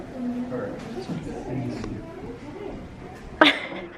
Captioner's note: laughing